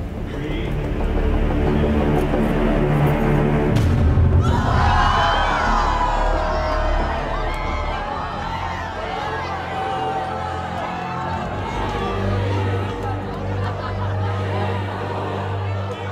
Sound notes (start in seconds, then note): 3.7 large object thuds; 5.1 crowd exclaiming